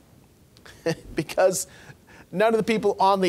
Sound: laughing

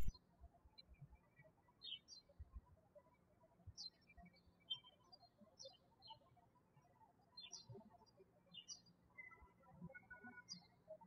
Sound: birds chirping

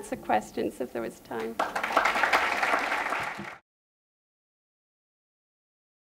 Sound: applause

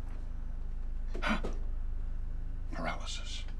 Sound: gasps

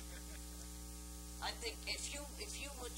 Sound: laughter

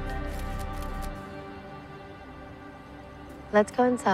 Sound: camera shutters clicking

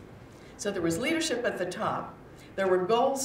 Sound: none

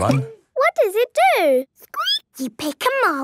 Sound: squeaking

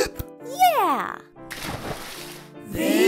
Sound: water splashes

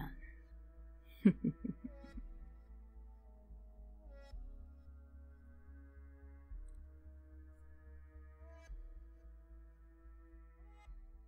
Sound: contented chuckle of a madman

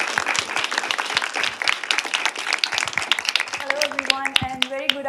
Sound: applause

